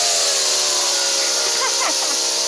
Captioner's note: laughter